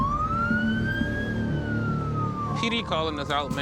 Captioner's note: siren